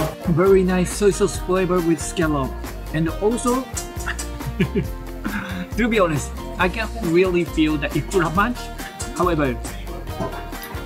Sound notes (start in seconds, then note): 3.9 chuckle